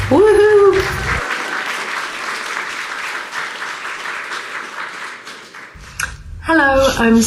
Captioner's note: audience applauding